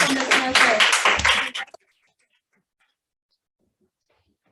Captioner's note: clapping